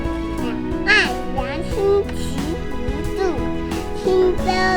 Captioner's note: reciting poem